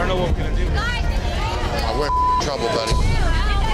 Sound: beep

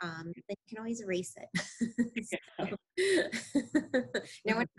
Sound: laughing

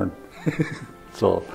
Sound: laughs

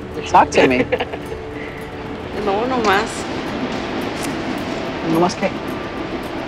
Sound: speaking Spanish

